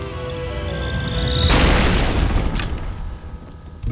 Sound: explosion

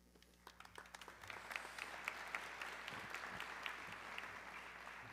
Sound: audience clapping

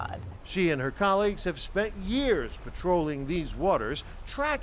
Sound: voice-over

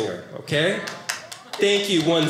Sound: audience clapping

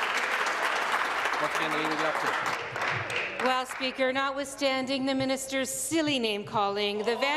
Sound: applause

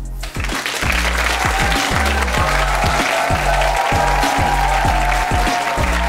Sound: upbeat music; audience cheering and clapping

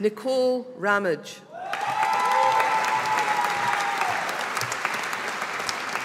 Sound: audience applauding

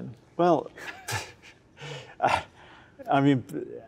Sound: laughter

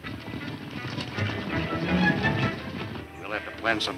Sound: fast hoof beats; fast tense music

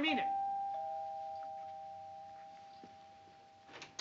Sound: doorbell

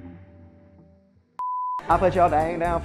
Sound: beep

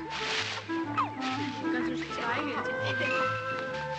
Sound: women talking

